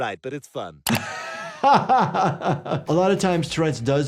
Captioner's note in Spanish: el doctor se ríe